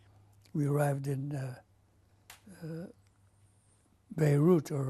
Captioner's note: pauses for 3 seconds